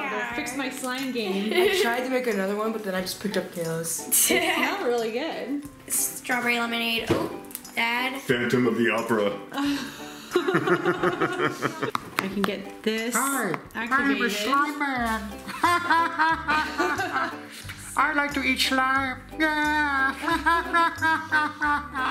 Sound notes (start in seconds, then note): 9.6 laughing; 15.4 laughing